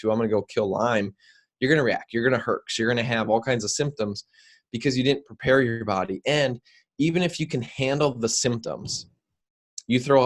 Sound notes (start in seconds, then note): none